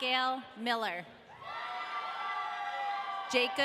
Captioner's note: audience cheering